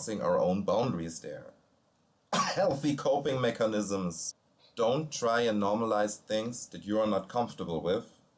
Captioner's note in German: Husten